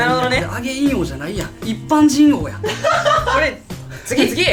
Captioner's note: laughs